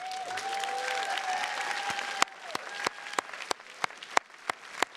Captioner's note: attendees cheers and claps